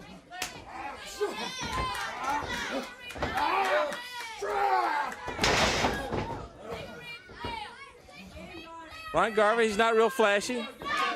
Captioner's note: crowd chatter